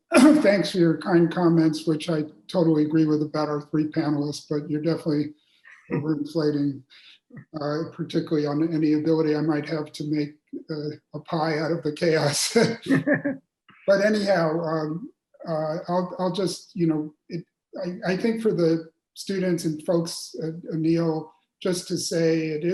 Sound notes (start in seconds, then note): 13.2 laughs